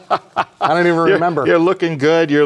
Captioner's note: laughs